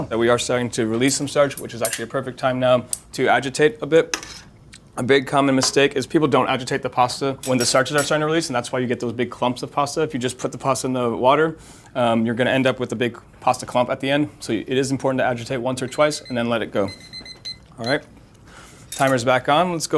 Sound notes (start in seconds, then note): 17.2 timer ringing